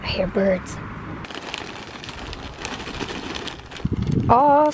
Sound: plastic crinkling

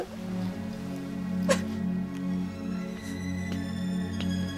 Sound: crying; soft music

